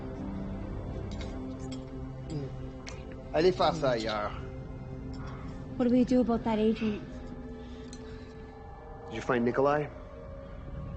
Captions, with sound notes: [LaFleur speaking in French] - What do we do about that agent? Did you find Nikolai?